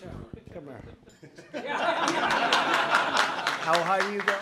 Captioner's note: laughter and applause